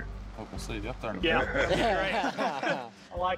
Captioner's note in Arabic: ضحك